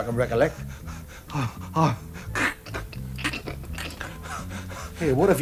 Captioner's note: pants and gags